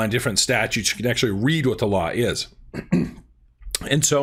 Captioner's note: clears throat